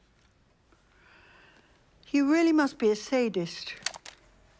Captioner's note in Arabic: نقرات المسجل; طنين المسجل بهدوء